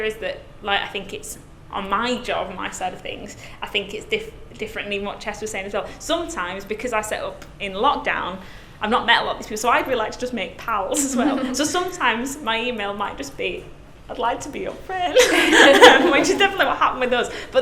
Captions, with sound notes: is that like I think it's on my job, my side of things. I think it's diff different in what Jess was saying as well. Sometimes because I set up in lockdown, I've not met a lot of these people so I'd like to just make pals as well. So sometimes - (laughs) my email might just be, I'd like to be your friend (laughs) which is definitely what happened with us.